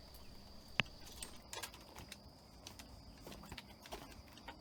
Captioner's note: footsteps tapping